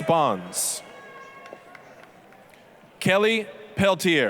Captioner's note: applause